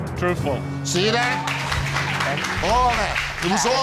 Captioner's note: audience clapping